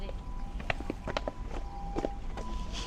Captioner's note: footsteps